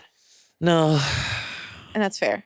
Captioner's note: sighs